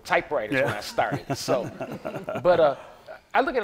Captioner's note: laughter